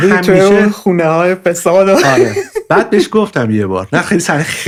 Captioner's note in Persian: خنده